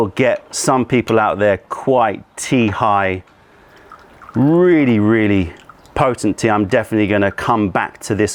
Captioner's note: pouring tea